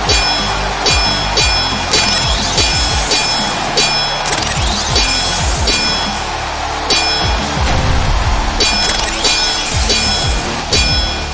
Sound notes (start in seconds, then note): 0.2 swords clanging; 4.5 lasers blasting